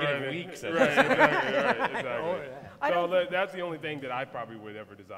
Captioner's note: laughter